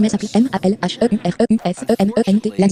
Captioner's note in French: rire en public